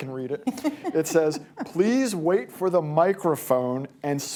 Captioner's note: laughter